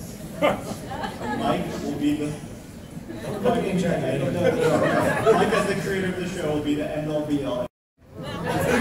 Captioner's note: laughs for some reason